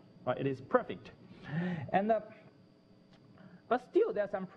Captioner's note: pause